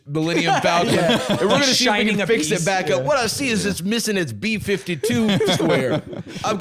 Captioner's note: laughs